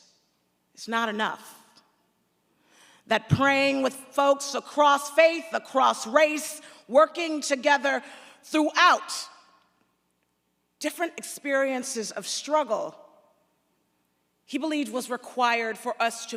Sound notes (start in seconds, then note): none